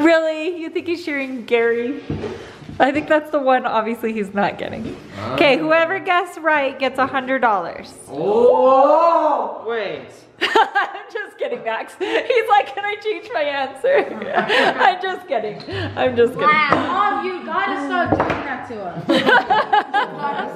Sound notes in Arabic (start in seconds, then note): 8.2 ضجيج متحمس; 10.8 يضحك; 13.9 يضحك; 19.0 يضحك